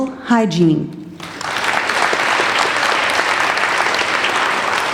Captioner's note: applauding